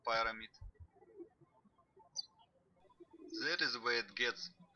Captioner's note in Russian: птички щебечут